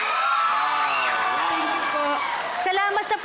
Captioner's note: audience cheering